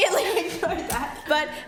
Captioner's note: laughs